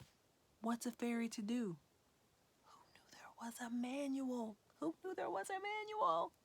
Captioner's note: whispering